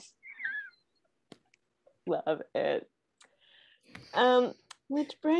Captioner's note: laughing